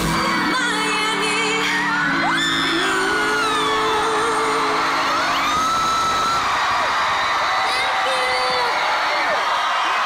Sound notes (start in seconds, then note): 4.5 cheering